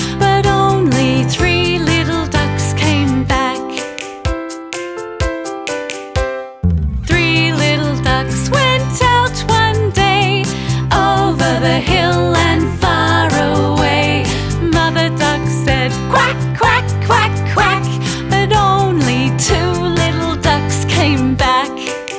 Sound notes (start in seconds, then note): 3.9 fingers clicking; 4.1 gentle music continues